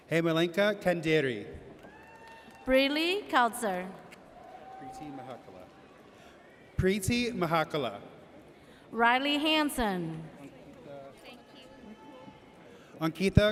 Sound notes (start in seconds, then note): 1.8 audience cheers; 4.3 audience cheers